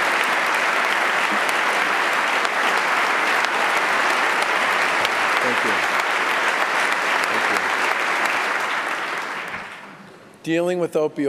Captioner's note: applause